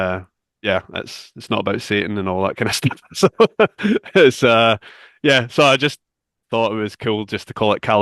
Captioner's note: laughs